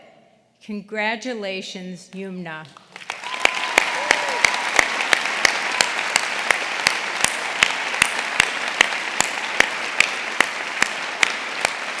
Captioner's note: applause